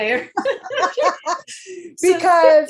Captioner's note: participants laughs